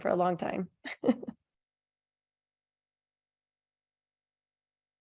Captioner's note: laughing